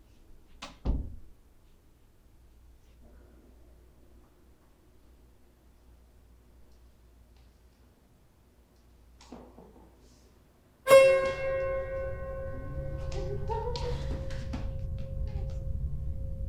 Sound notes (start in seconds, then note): 0.7 door clicking; 10.9 ominous music; 13.4 Natalie muttering